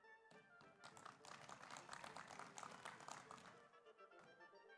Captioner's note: audience applauds